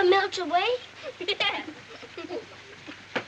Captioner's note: laughs